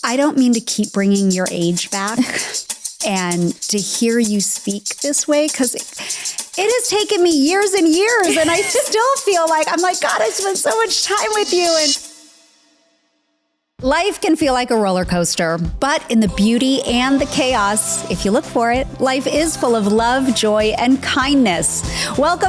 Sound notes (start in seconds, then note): 2.1 laughing; 8.0 laughing; 15.1 upbeat music